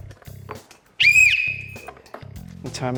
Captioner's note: blows whistle